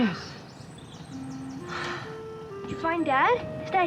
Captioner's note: sighs